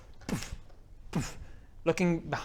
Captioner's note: boof